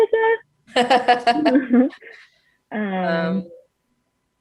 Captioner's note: laughs